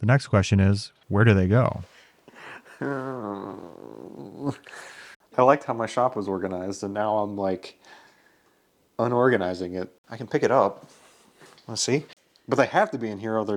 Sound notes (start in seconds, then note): 2.4 groans